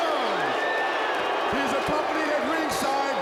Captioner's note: crowd cheering